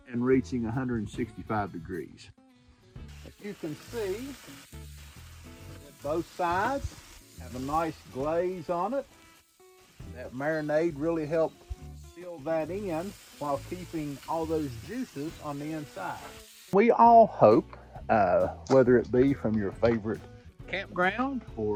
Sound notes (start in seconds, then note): 4.8 griddle sizzling